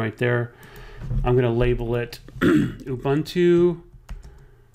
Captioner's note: clears throat